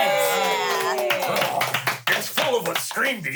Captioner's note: everyone cheers